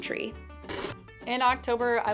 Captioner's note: TV noise